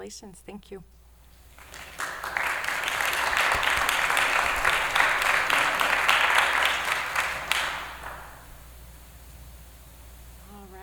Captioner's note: applause